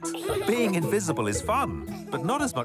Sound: giggles

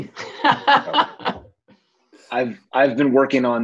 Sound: laughing

